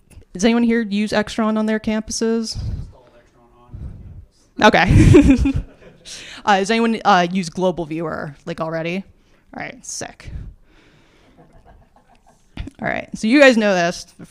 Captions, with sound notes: Does anyone here use Extron on their campuses? I just installed Extron on our campus. OK. [LAUGHS] Does anyone use Global Viewer already? All right, sick. All right, so you guys know this,